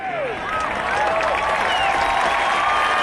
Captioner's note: clapping